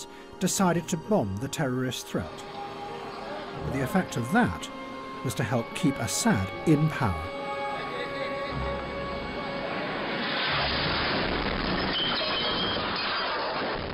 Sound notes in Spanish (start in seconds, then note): 10.1 fuerte silbido; 12.1 estrépito